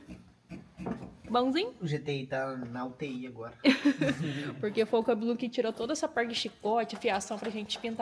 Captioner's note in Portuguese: risadas